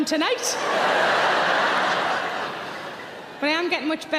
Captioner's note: audience laughing